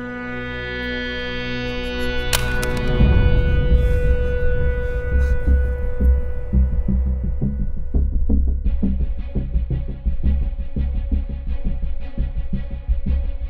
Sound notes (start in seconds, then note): 2.3 gun drops